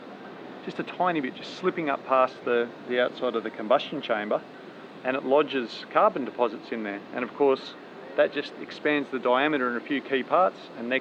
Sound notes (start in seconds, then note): none